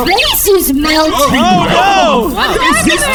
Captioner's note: voice glitching; Pleck and Dar exclaim in horror; several members of the crew yell "Oh, no!"